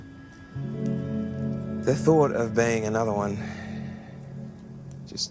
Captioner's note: sighs